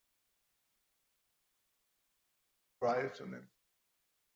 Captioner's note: speaker distorts